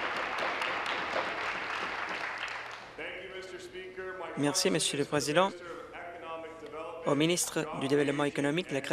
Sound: applause

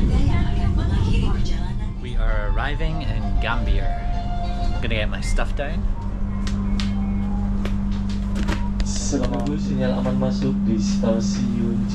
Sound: conductor speaking

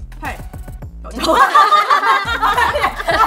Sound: laughing

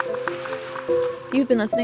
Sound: audience applauding

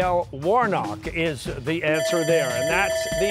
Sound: bell ringing

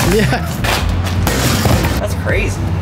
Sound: safe thudding

